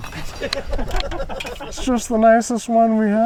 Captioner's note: crew laughs